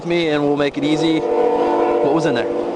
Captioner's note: vehicle roaring